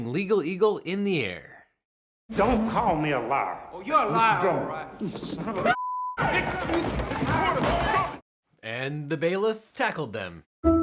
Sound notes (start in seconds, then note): 6.1 yelling